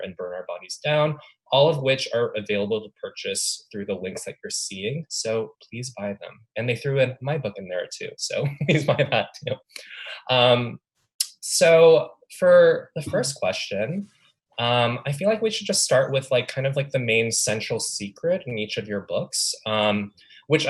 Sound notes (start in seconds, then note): 8.4 laughs